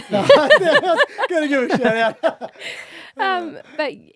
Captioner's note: laughing